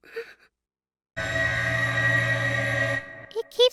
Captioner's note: wailing